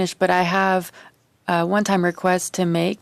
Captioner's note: speaking French